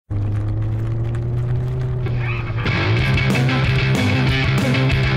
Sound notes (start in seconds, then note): 0.0 engine rumble